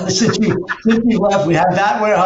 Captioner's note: both laugh